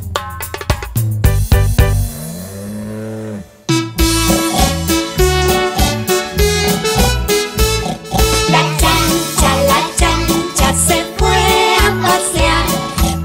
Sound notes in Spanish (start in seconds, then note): 3.4 Sonido de chancho; 3.7 Música Alegre